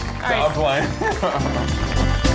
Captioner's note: laughing; upbeat music